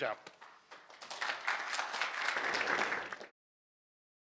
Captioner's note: applause